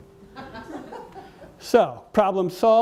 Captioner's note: audience member laughs